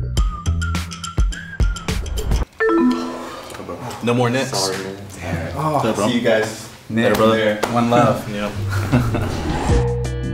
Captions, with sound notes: (beeping) - No more Nick's. - See you guys. - Brother, one love.